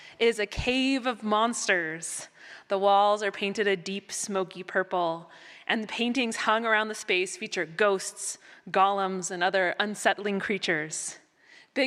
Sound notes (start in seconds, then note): none